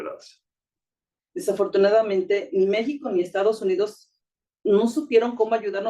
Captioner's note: speaking Spanish